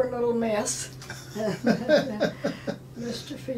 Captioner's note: laughing